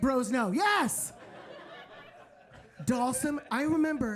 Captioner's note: audience laughing